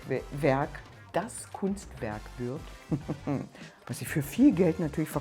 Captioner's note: heheh